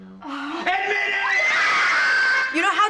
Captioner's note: sighs; family screaming